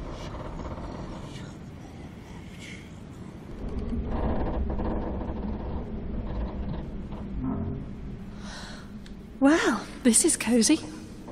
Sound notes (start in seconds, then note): none